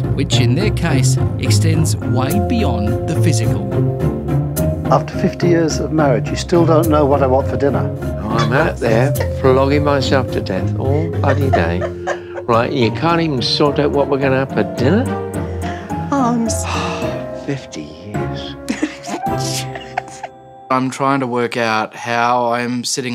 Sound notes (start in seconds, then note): 8.2 laughing; 16.4 sighing; 18.4 laughing